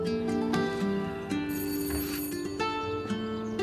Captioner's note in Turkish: Kapı zil sesi